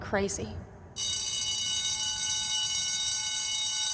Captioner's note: loud bell ringing